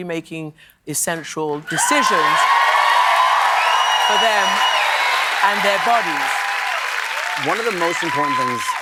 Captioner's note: cheers and applause